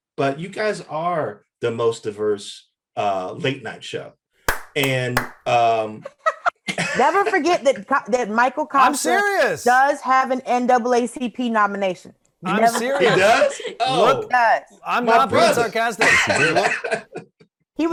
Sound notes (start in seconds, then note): 4.4 Michael clapping; 14.9 Eric laughs